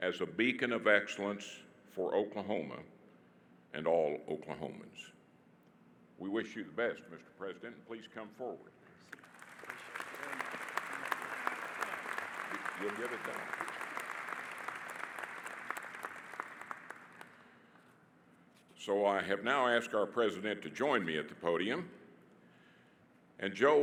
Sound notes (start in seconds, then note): 9.1 audience applauding